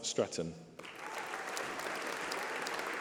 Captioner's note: applause